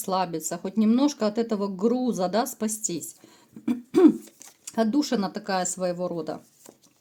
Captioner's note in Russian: откашливается